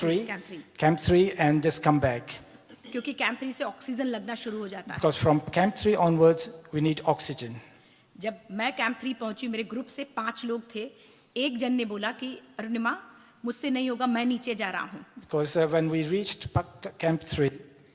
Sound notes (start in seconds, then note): 2.5 speaks foreign language; 8.1 speaks foreign language